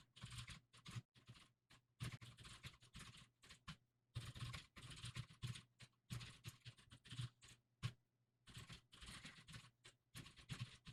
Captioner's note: typing sounds